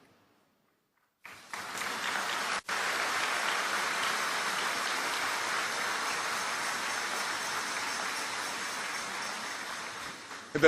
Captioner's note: applause